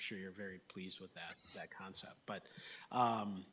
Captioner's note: laughs